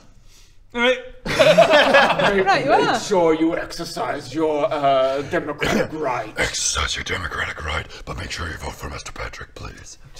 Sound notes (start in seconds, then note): 1.3 cruel giggles